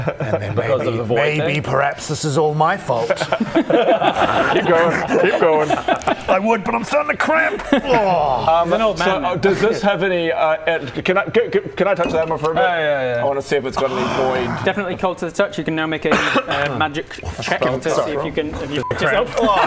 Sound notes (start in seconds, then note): 14.1 old man noises